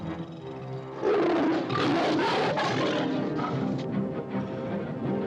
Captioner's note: dramatic music; tiger roars; suspenseful music